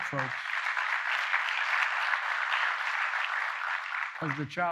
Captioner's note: applause